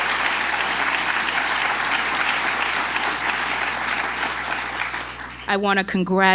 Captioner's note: applause